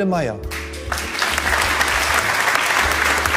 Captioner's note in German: Applaus